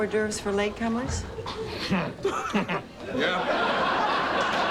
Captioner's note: grunts and chuckles